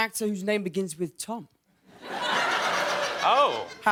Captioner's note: laughter